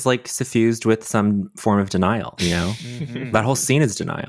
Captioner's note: charles laughs